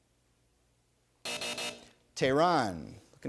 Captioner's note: buzzer